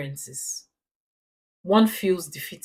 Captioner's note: paause